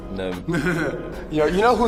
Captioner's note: both chuckling